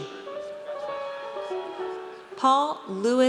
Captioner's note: audience cheers